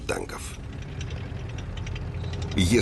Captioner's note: sound of tank tracks